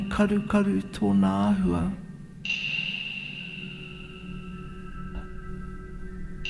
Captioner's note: narrator speaking Maori continues